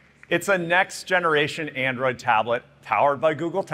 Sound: applause

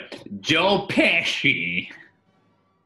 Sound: drawling accent

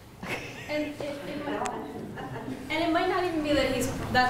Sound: laughs

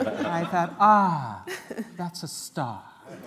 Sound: laughter

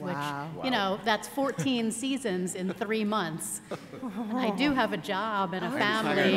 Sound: laughter

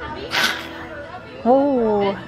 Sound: loud hiss

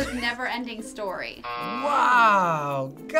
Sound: buzzer

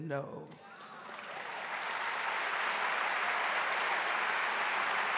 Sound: audience applauding

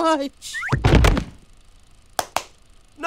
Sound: claps

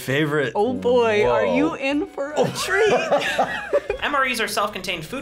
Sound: laughs

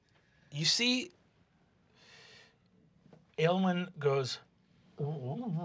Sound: murmuring

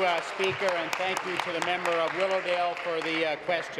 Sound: applause

